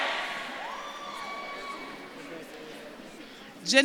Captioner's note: audience claps and cheers